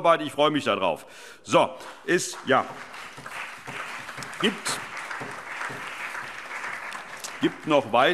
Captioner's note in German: Allgemeiner Beifall